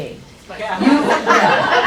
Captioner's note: crowd laughs